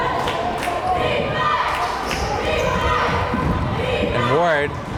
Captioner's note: crowd chanting defense